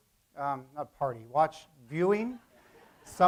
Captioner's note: laugh